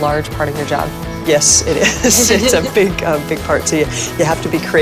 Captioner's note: laughs